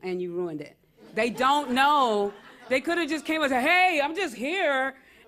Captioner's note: laughter